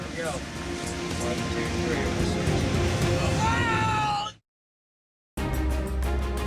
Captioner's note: dramatic music; yelling; dramatic music